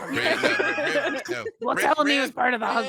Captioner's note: laughs